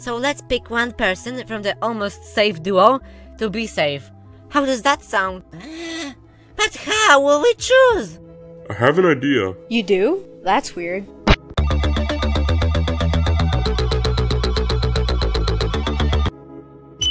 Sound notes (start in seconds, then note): 11.3 splat